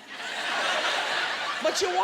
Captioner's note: laughter